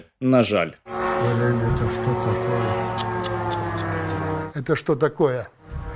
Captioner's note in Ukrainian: звук дрона